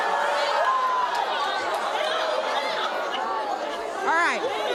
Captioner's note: audience jeering